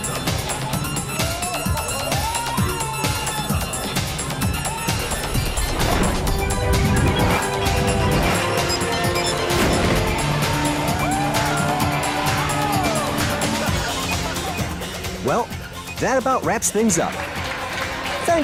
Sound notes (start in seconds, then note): 0.2 upbeat music continues; 4.8 air whooshing; 12.1 riders shouting and laughing; 16.6 riders clapping